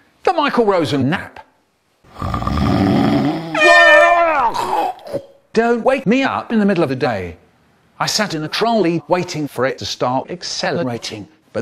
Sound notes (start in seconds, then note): 2.1 snore; 3.5 airhorn